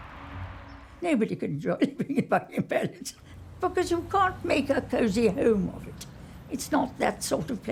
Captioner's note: laugh